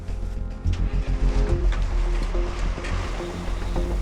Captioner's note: engine starts